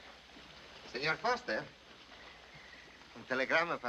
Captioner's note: speaking spanish